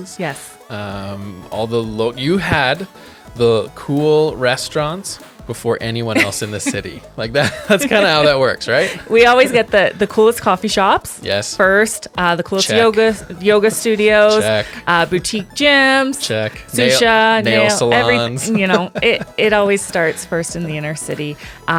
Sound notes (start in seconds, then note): 7.3 laughing; 16.4 laughs